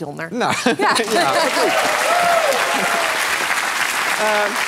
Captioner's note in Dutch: applaus